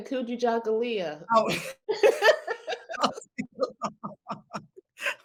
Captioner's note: participants laugh